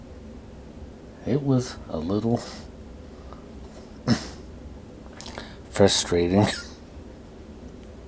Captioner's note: coughing